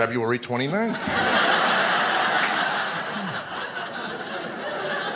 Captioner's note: audience laughing